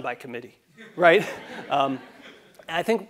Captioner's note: laugh